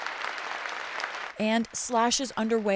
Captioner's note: applause